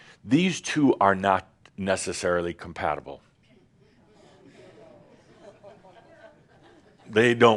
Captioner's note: a few chuckles